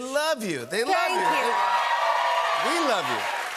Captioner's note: cheers and applause